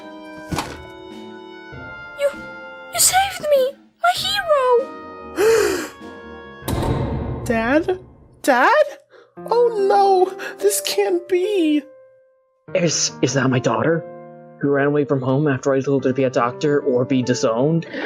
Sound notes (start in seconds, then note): 0.4 thump; 5.4 gasp; 17.8 inappropriately timed laugh track